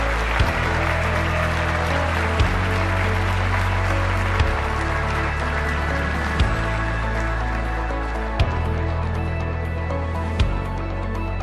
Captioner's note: applause